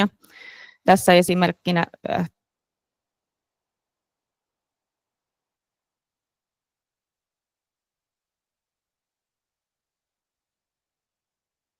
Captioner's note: ääni puuttuu